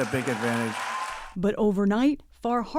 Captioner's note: cheering